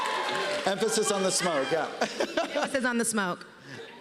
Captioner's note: cheers and applause; laughs